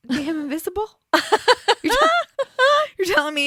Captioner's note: laughs